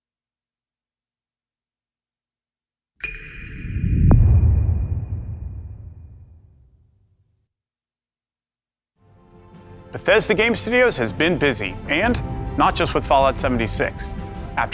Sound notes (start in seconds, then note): 5.2 dramatic sound